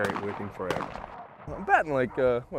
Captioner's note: gun shots